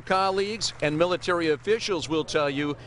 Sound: applause

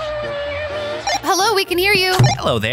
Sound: radio beeps

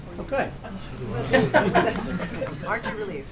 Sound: laughter

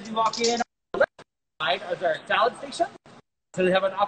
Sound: audio stutters

